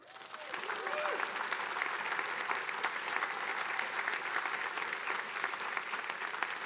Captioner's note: attendees cheering and applauding